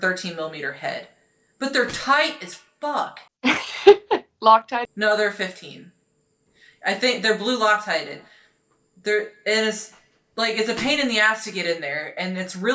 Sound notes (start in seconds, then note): 3.5 laughing